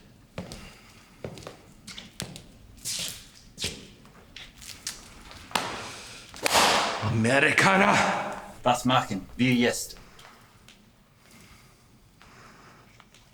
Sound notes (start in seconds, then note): 6.3 whip cracking; 8.6 officer speaking German